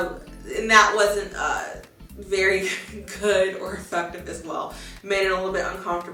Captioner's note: chuckles